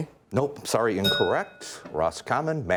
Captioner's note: bell rings